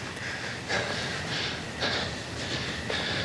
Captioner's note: heavy breathing